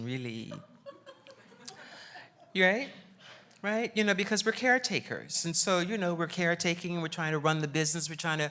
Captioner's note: laughs